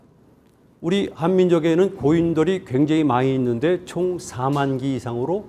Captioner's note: speaking in Korean